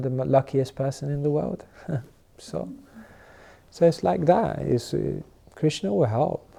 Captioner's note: chuckles